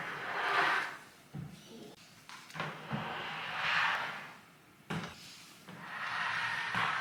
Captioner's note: couch scrapes on floor